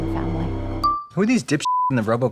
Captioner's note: beeping